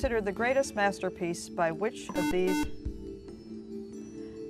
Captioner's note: buzzer